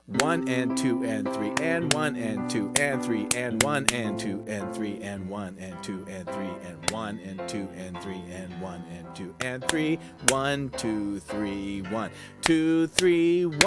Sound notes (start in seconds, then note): 0.1 metronome clicking; 0.2 piano music; 3.6 clapping; 8.9 clapping; 11.7 clapping